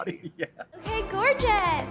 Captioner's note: laughs